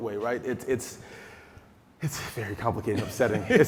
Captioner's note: taking deep breath; laughing